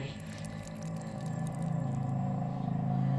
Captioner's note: blood dripping